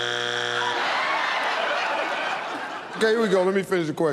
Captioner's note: laughter